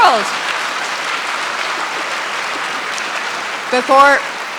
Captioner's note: audience applauding